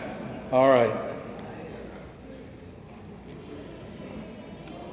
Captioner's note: attendees chattering